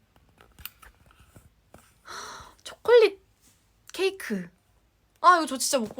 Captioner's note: gasp